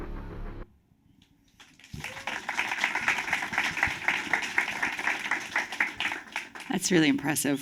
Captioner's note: cheers, applause